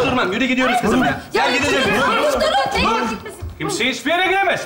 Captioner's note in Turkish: bağrışmalar